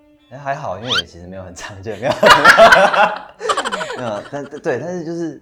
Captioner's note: hahahah